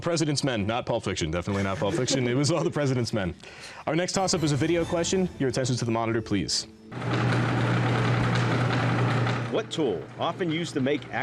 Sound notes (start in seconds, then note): 7.0 whirring